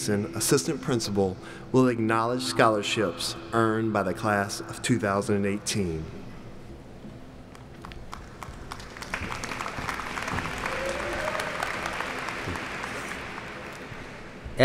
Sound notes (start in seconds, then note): 8.1 applauding